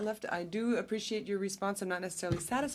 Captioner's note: speaking French